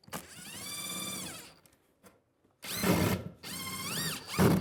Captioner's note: drilling sounds